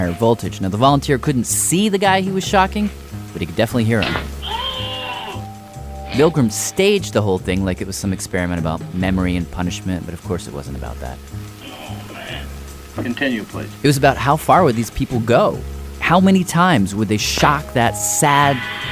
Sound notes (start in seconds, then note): 4.3 screams